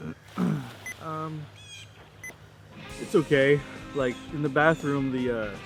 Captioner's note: phone beeping